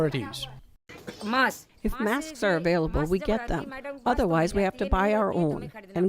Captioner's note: through translator